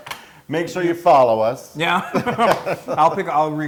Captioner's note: laugh